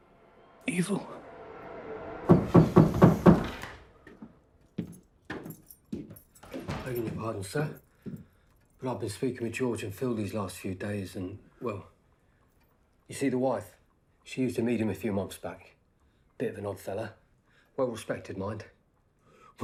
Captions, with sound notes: [ominous music] - Evil. [pounding on door] - Begging your pardon, sir. But I've been speaking with George and Phil these last few days, and, well, you see the wife, she used to meet him a few months back. Bit of an odd fella. Well respected mind.